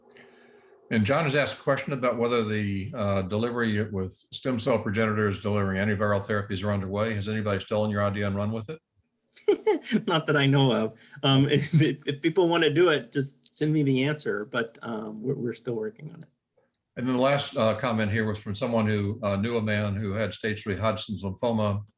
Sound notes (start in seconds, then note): 8.8 laughter